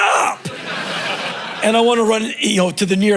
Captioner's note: crowd laughing